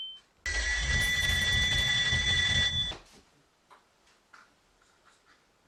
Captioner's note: Sonic Scream